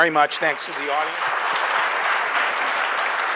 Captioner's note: applause